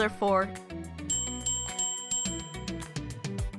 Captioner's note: bell ringing